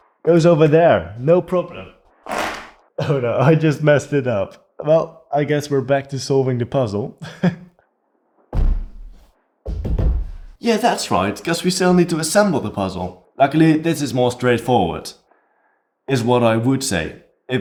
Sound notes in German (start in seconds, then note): 2.3 Fallgeräusch